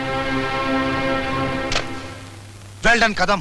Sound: receiver hang up

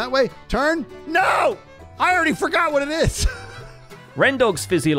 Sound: laughs

